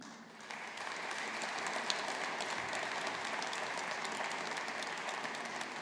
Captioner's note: audience applauding